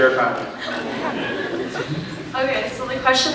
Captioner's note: scattered laughs